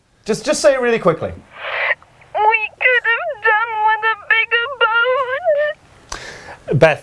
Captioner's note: sobbing